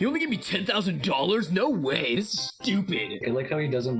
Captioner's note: mocking